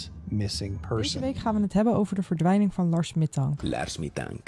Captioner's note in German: niederländische Sprecherin